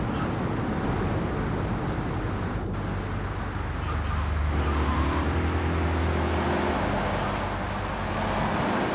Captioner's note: engine revving